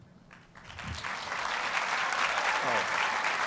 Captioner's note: audience applauds